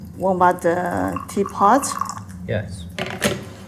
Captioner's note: water pours